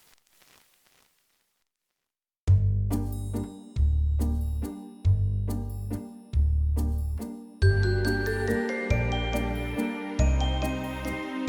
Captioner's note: phonograph static fades out